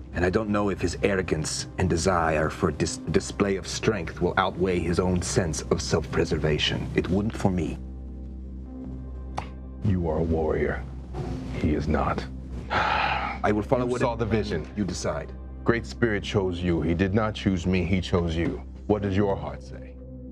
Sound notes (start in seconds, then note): none